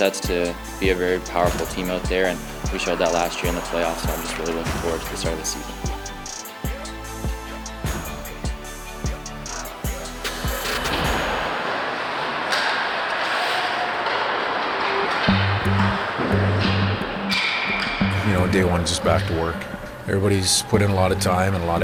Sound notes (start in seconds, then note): 7.0 inspirational music; 13.1 sticks and pucks clacking